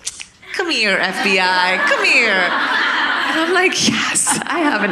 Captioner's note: audience laughing